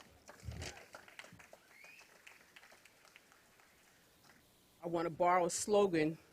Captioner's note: applause